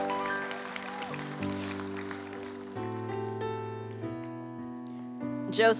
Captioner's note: applause